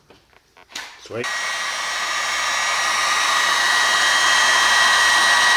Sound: dryer whirring

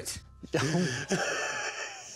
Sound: laughing

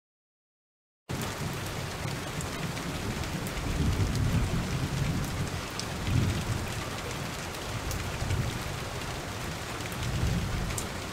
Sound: sound of rain and thunder

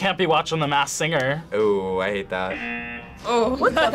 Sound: buzzer rings; laughs

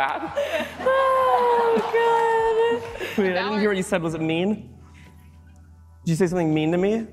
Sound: laughter

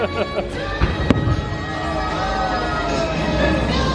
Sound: laughs; fireworks explode

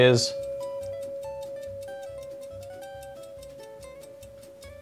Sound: clock ticking

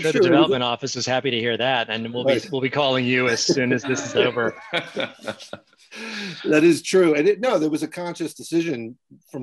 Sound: laughing

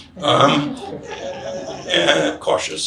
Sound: audience laughs

